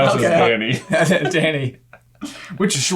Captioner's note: both laughing